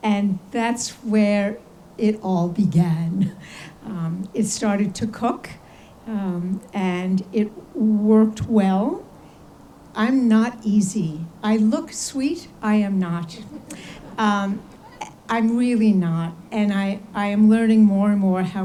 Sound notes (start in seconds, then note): 13.2 audience laughs